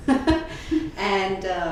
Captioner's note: laughs